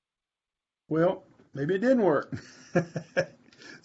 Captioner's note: laughs